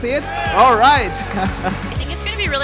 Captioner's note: audience cheering; laughing